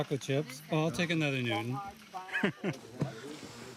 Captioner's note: laughs